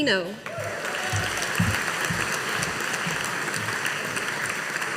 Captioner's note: audience applauding